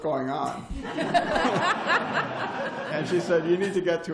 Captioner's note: laughter